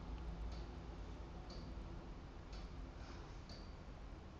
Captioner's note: clock ticking